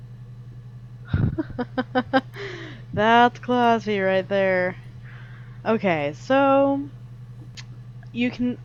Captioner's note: laughs